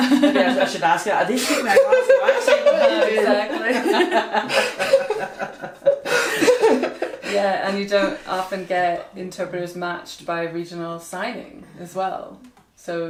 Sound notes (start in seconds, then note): 5.5 all laugh